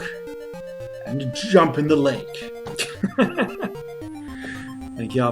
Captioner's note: chuckles